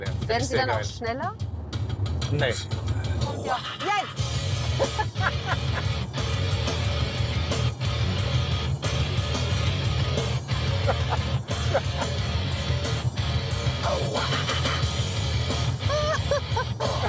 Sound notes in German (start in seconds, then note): 3.3 Heavy-Metal-Musik; 10.6 Er lacht; 15.7 Beide lachen